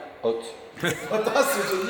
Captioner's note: laughters